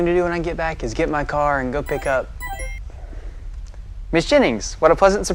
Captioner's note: computer chiming